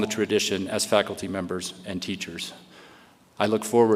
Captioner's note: none